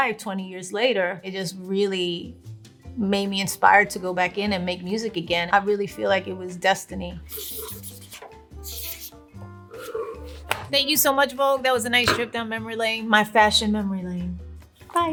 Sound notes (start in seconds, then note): 7.3 pen scratching